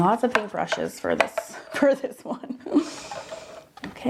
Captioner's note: laughs